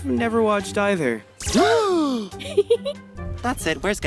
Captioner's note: gasping; laughs